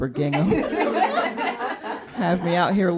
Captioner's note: laughter